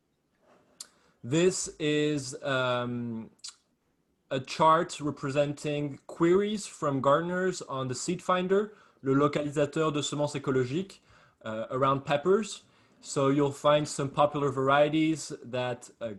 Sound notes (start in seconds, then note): 6.4 speaking French